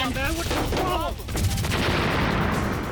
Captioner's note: explosion